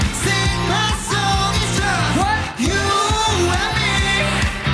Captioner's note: none